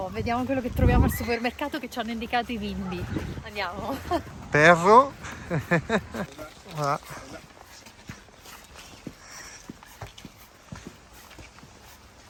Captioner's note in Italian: Risate